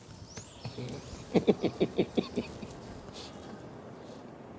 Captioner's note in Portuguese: risos